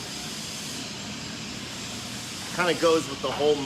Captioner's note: machine whirring